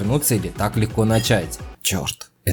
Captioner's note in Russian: звук кружки